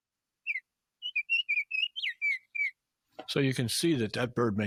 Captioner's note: Baltimore oriole chirping